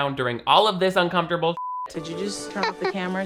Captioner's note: beep